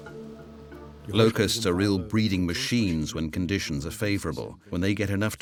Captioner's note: in German